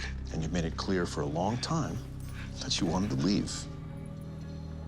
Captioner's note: none